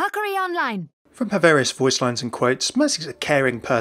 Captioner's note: voiceover